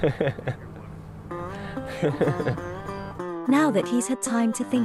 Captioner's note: laughs